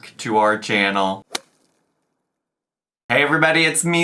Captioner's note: whip cracks